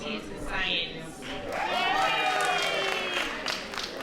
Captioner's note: applause